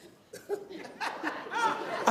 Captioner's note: audience laughing